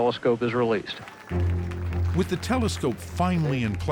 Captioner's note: cheering